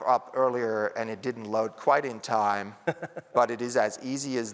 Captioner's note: laughter